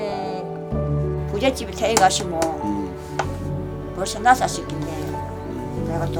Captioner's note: bong